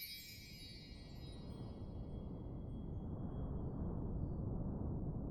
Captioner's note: shatter